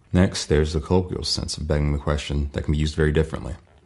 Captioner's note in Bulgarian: на английски